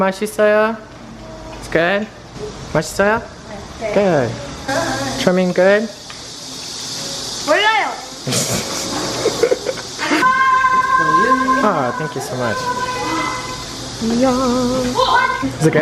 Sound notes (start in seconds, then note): 0.1 speaking foreign language; 7.3 speaking foreign language; 8.3 laughing